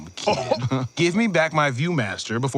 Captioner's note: laughs